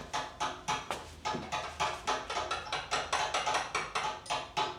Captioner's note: chisels tapping